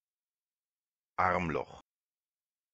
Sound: fast Pronunciation

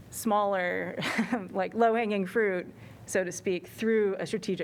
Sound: laughter

